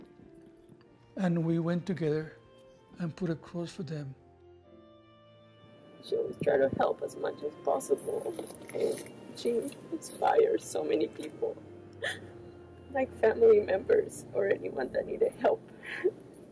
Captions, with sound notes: and we went together, and put a cross for them. - She was trying to help as much as possible, and she inspired so many people, (sobs) Like family members or anyone that needed help.